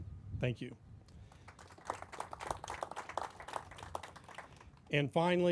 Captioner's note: crowd applauding